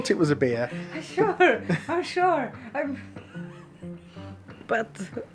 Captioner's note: laughing